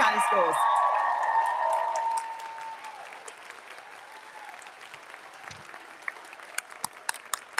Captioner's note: audience cheering; audience applauding